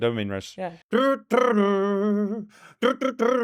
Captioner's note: humming